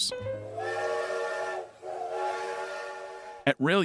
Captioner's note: train horn honking